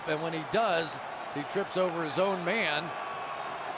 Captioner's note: crowd cheering